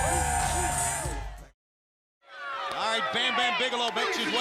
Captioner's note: crowd cheering